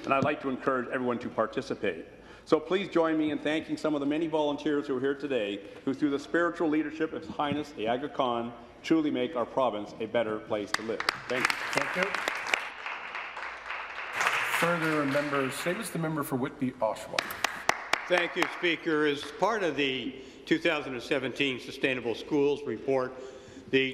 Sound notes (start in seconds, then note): 17.1 applause